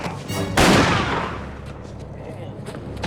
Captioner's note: gunshot